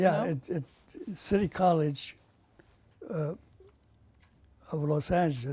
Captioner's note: pauses for 3 seconds